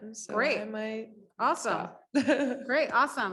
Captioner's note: woman laughs